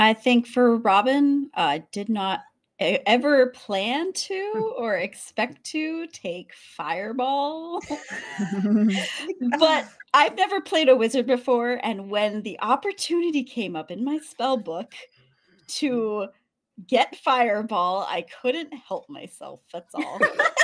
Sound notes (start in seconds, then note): 4.8 chuckles; 7.8 cast members laughing; 20.0 laughing